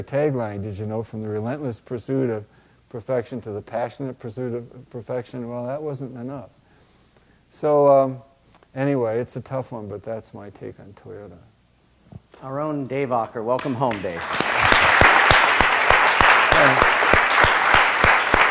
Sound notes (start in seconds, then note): 13.6 applause